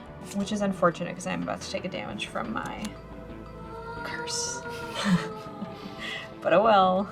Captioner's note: laughs